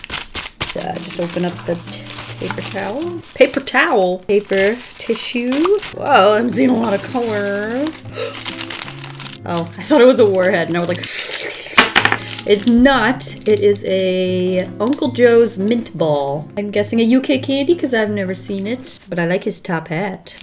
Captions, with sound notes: Just open up the paper towel. Paper towel!? Paper tissue. Whoa! I 'm seeing a lot of colors! [Gasps] Oh, I thought it was a warhead and I was like [slurps excitedly] It's not! It is a Uncle Joe's mint ball. I'm guessing a UK candy because I've never seen it but I like his top hat.